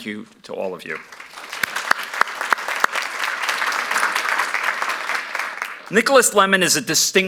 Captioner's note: applause